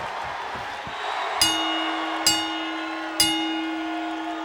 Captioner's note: bell ringing